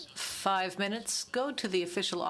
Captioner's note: speaking french